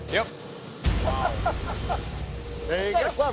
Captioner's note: laughs